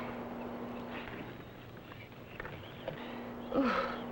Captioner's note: birds chirping